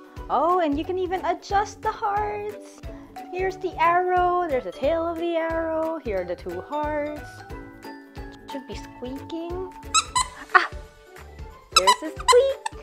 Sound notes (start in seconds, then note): 9.9 squeak